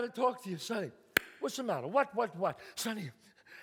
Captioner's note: claps